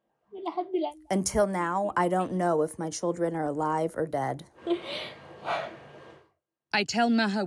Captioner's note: through translator